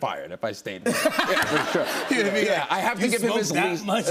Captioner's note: laughter